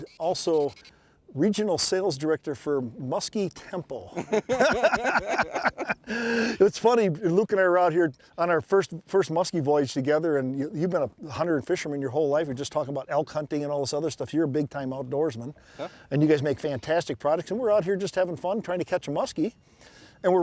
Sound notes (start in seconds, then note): 4.1 both men laugh